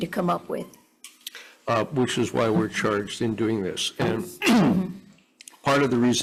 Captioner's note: clears throat